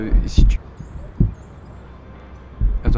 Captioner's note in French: bruits de coups étouffés